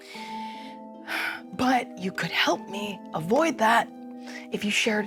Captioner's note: sighs